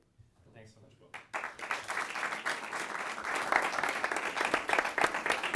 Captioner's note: audience clapping